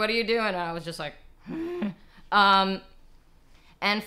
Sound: grunts

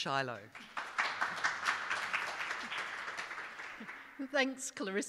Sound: audience clapping

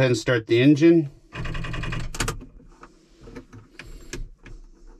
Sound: engine sputtering

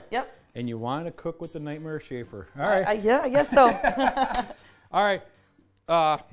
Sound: laughing

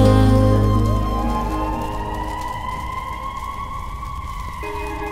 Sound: ambulance siren

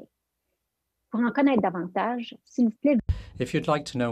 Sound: French

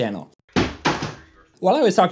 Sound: sound of something falling

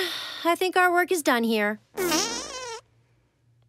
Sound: farting

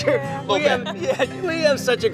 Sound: laughing

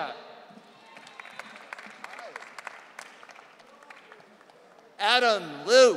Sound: audience cheering

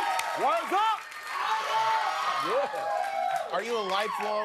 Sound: cheers and applause

